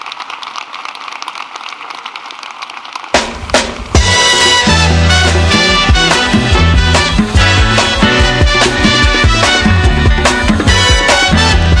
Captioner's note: applause